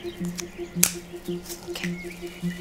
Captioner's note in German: Knacken